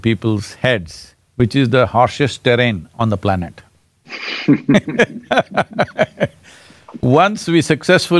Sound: both laugh

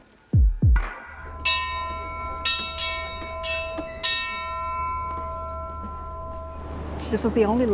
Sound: bell dings

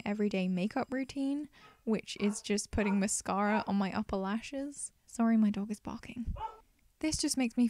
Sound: dog barks

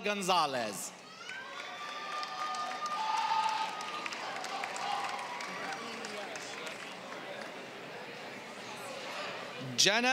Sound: applause; applause

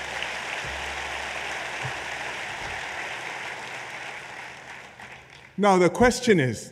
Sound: applause

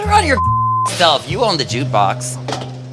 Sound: beep

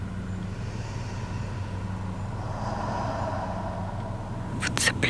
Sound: sound of inhale and exhale

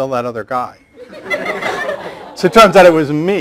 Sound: laughter

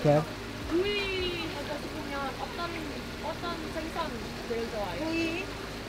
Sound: speaking in foreign language

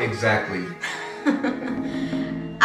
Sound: laugh

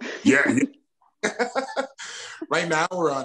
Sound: laughs

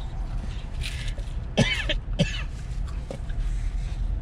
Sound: cough, cough

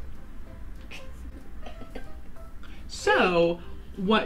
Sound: laughing

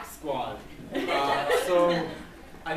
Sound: laughs

